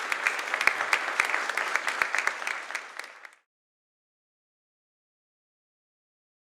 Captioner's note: applause